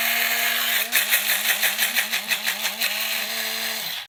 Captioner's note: grinder whirring